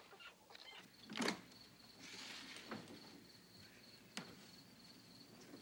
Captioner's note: crickets chirping